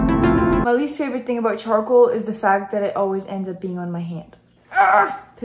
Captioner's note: screams